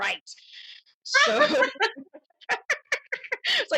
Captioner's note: laughter